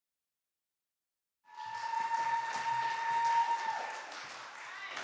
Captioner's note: applause